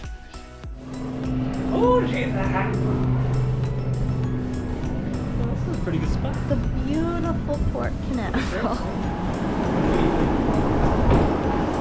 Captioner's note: laughs